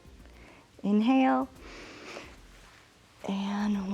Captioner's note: inhales